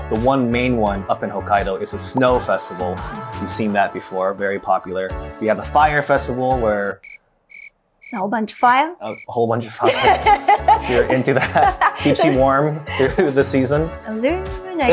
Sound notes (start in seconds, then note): 7.4 cricket chirping; 9.8 chuckles; 9.8 laughing